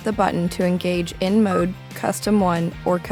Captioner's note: button beeps